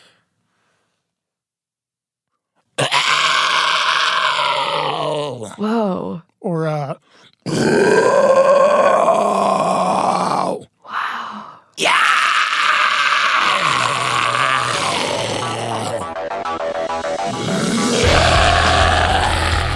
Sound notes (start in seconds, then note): 2.8 guttural scream; 11.7 screams